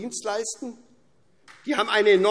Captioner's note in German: Beifall SPD